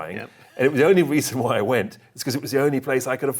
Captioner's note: chuckling